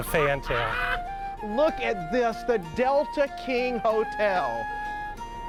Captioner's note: laughs